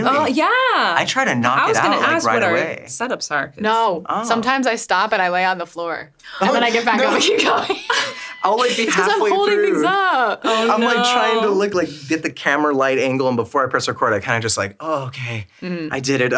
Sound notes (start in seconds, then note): 7.0 everyone laughs